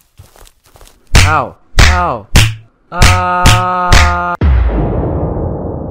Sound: slapping sounds

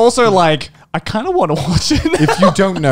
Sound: laughs

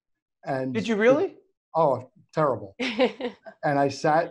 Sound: laughs

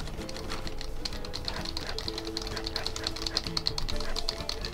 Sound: franatic button-mashing

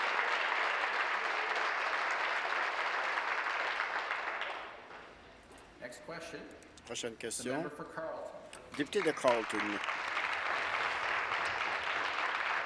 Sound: some Applause

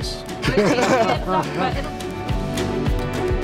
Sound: laugh

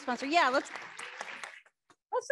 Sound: audience clapping

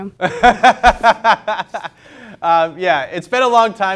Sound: laughs

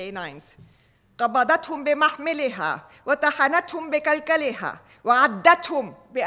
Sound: speaking foreign language

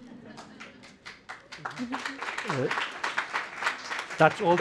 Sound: applause

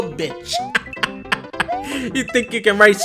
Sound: laughs

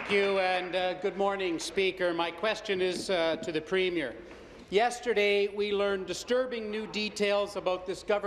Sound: applause

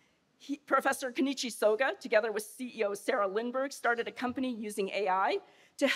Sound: none

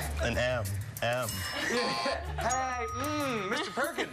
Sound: laughter; laughter

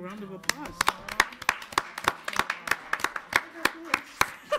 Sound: audience applauds

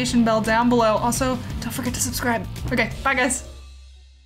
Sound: whispers

